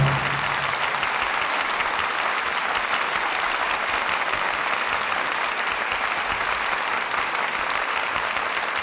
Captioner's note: applause